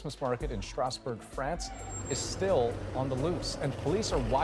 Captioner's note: screaming